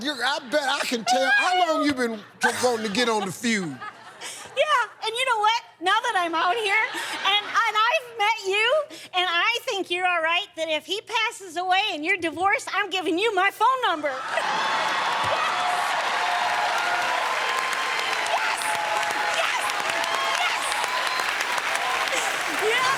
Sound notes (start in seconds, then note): 14.1 laughter; 16.8 cheers and applause